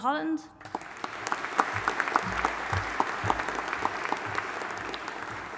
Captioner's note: audience applauding